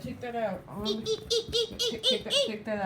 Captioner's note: imitating monkey